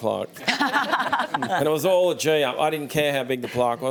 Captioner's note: laughs